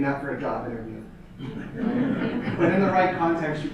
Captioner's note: audience laughter